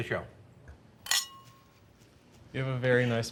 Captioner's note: glasses clinking